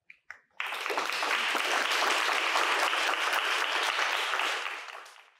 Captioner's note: applause